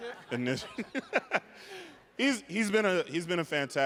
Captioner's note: chuckling